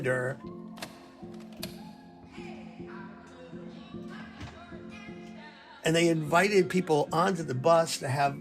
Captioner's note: soundbite of button clicking